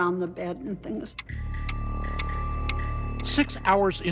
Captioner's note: clock ticking